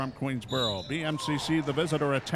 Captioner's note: referee whistling